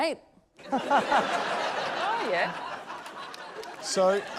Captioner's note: laughter